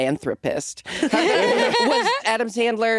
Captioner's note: laughing